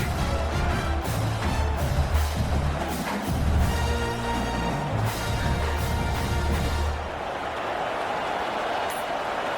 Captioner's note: crowd Noises